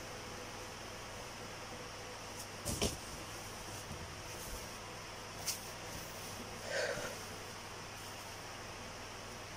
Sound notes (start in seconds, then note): 6.6 sighs